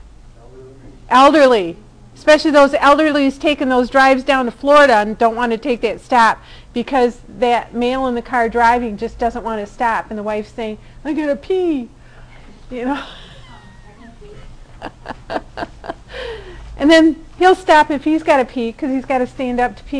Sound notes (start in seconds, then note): 12.9 laughing